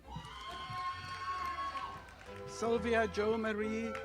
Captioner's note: audience applauding